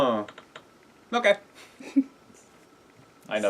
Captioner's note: laugh